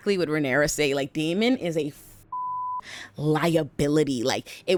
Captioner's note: beep